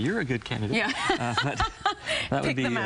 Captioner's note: laughing